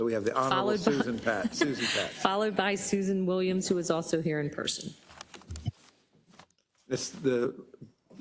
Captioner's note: laugh